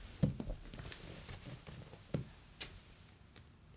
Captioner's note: feet scuffle